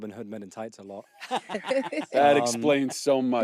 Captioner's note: laughter